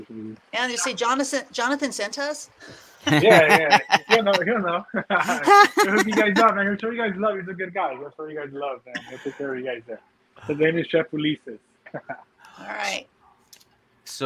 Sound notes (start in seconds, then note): 3.0 everyone laughing; 5.5 laughing